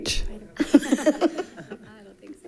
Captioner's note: women giggling